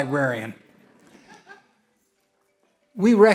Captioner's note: audience laughs